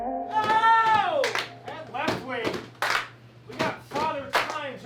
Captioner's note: clapping and chanting